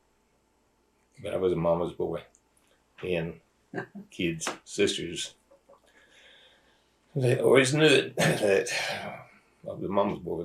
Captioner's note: laughter